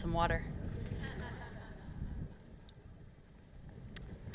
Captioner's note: laughter